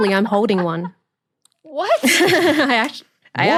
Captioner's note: laughs